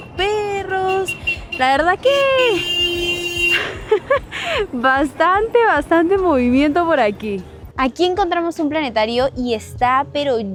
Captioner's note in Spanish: risas